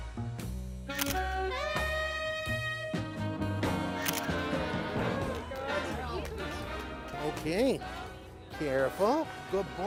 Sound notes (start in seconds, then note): 0.9 shutter clicks; 3.9 shutter clicks